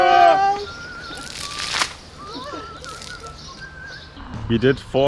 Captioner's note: water splashing